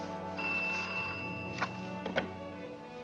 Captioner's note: phone rings